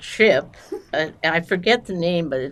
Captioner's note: laughing